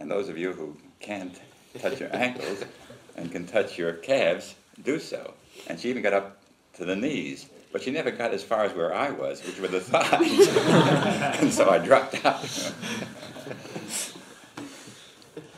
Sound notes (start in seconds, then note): 9.5 laughter; 12.1 laughs